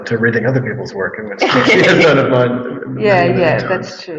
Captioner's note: all laughing